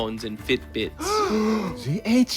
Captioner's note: gasps